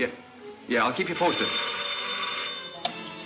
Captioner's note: phone ringing